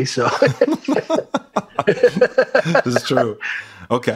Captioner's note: laughter